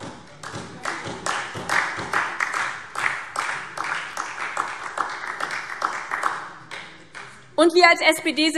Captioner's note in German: Beifall SPD und vereinzelt DIE LINKE